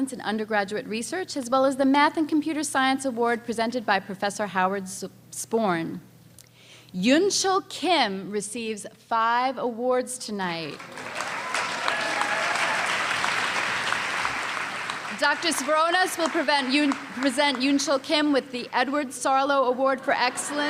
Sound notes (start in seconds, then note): 10.8 cheering and applause